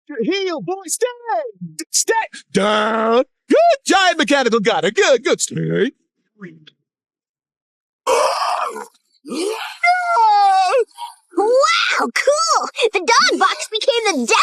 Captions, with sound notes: Heel, boy-- stay! Stay... Down! Good, giant mechanical Goddard. Good, good. Stay. ( Goddard growling ) ( screaming ) Wow! Cool, the dog-box became the Decimator!